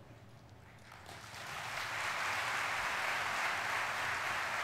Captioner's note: audience applauding